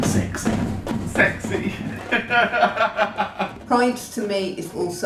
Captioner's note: laughs